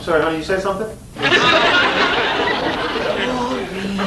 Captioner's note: audience laughs